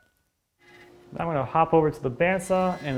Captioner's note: bandsaw quietly humming